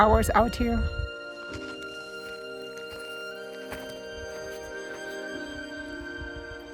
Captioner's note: footsteps; sentimental music